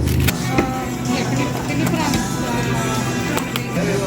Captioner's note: background chatter